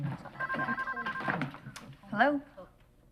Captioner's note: phone ringing